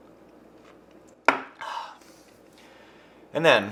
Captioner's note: beer bottle clinking